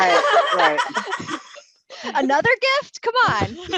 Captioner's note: laughter